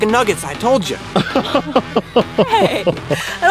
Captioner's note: laughing